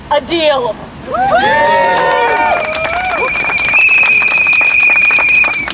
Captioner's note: laughter, cheering, and whistles